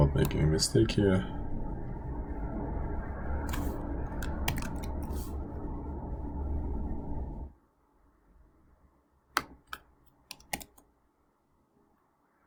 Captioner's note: typing